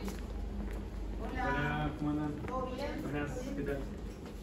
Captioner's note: in Spanish